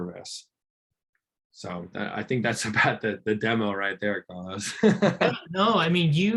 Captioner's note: laughs